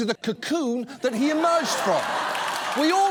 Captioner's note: audience laughs, applauds